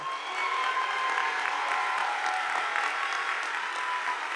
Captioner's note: audience applauding